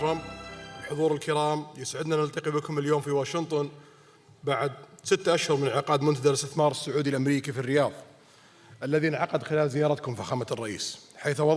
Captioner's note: speaking Najdi